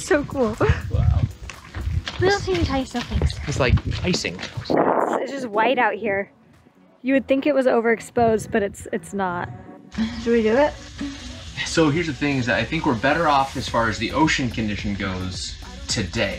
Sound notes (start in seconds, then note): 0.3 laughs; 5.6 wind whooshes